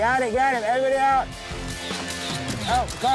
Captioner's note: upbeat rock music; camera snaps